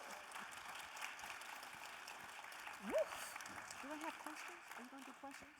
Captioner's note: audience applauding